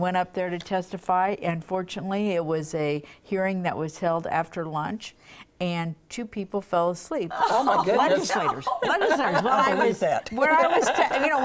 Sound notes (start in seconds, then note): 7.3 laughs